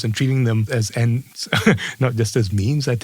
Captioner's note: laugh